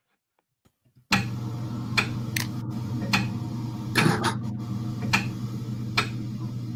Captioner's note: ticking